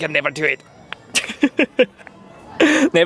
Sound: laughs

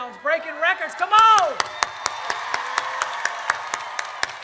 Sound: claps

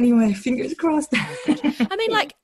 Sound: laughs

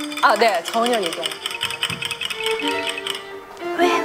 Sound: tap tap tap tap

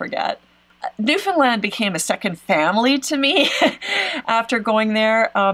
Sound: laughs

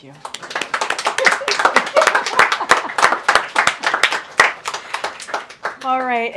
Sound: applause

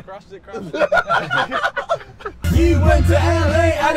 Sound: laughing

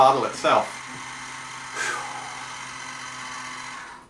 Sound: motor

